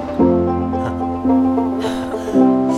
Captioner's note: Anuj laughs